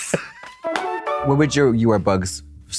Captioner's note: bright chime